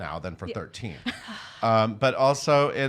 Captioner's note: laughing